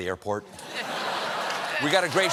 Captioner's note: cheers and applause